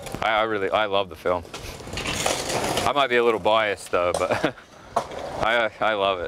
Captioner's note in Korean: 웃음